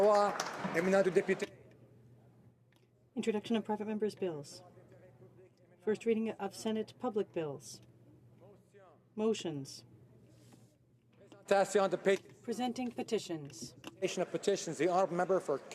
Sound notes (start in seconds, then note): 2.9 speaking French